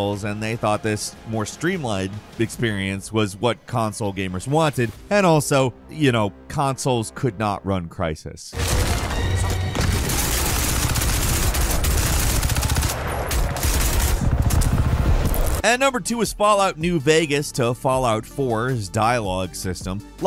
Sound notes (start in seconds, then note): 8.5 dramatic music; 8.6 machine gun firing